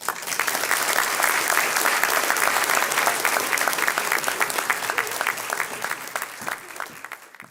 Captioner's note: clapping